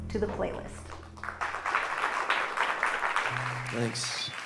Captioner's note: applause